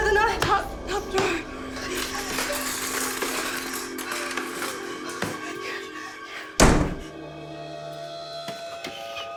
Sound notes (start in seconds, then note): 1.6 utensils clattering